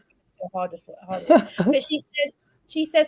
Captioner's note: laughs